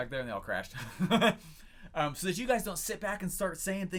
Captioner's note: laughs